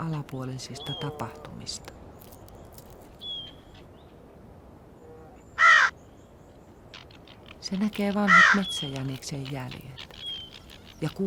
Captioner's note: braying